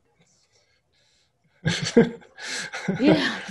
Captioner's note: laughing